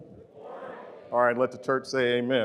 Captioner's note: crowd